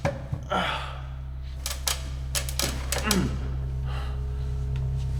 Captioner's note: grunting